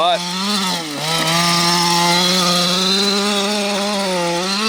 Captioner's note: engine roaring